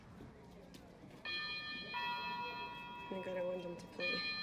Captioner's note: bell